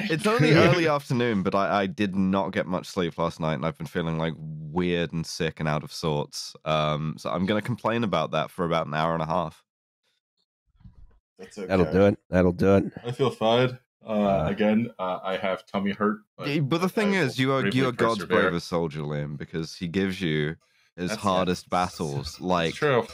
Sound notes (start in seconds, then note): 13.4 yawning